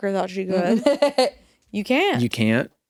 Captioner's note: laughs